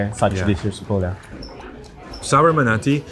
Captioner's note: food bubbles